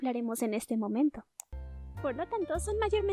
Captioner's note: click